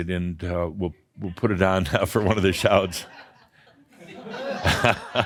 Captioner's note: chuckles and some laughter